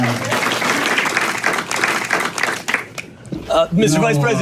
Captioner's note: crowd applauds